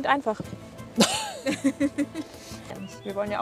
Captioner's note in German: Lachen